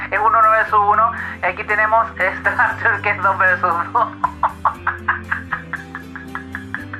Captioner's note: laughs